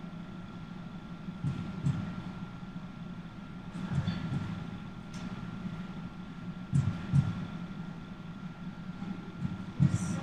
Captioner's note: heartbeats